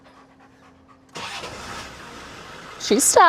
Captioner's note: engine starts